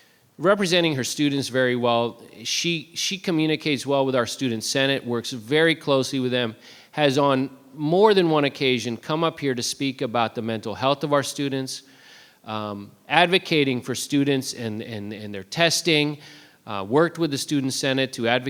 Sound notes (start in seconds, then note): none